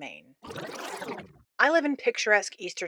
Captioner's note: rewind sfx